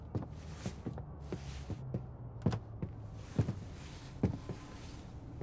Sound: traffic droning faintly

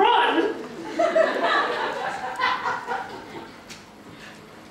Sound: audience laughter

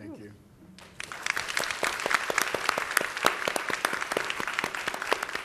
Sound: audience applauds

